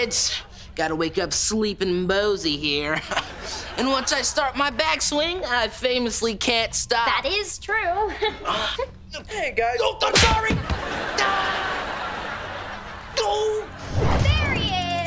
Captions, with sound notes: Gotta wake up sleeping Bosey here. [chuckles] And once I start my backswing and I famously can't stop. That is true. [chuckles] - Hey, guys. - Oh, I'm sorry. [groaning] Oh. There he is.